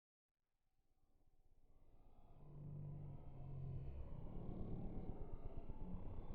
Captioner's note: wind